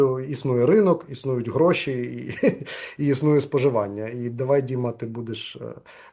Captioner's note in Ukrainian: сміється